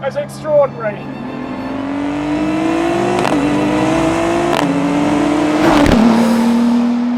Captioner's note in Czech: řvoucí motor auta